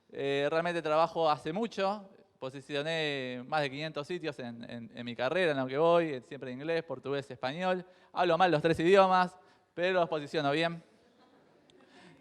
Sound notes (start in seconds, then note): 8.3 jokingly; 11.1 crowd laughs